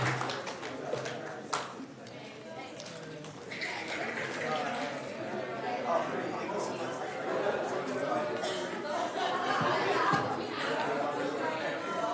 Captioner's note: applauding